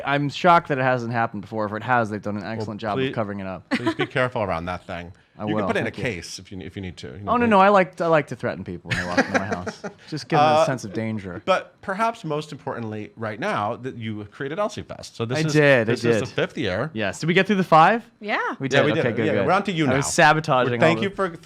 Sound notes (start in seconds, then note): 3.7 laughs; 8.9 laughs